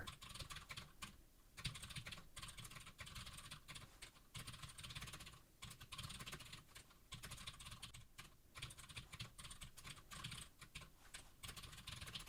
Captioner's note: typing sounds